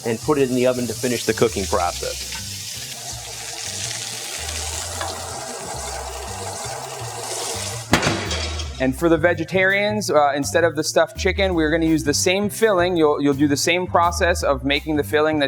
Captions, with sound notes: and put it in the oven to finish the cooking process. (chicken sizzling) (bright music) - And for the vegetarians, instead of the stuffed chicken, we are gonna use the same filling, you'll do the same process of making the filling